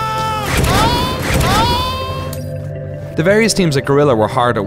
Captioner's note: soldier speaks in Russian language; screaming